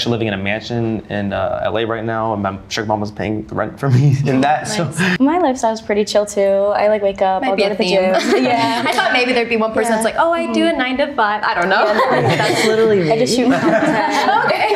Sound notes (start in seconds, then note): 11.6 laughs